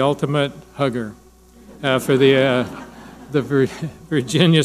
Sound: audience laughing

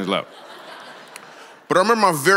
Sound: congregation laughs

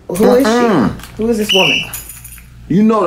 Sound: Drew blows whistle

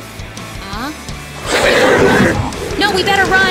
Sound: growl of alien mutant toads

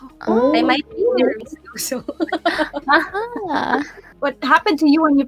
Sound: laughing

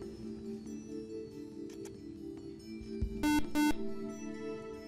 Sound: buzzer

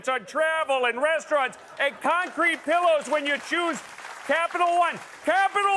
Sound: applause

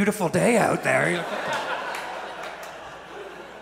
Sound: audience laughs

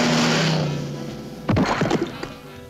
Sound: thuds

